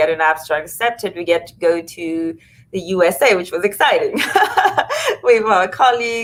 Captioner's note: laughs